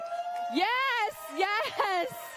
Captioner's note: cheers and applause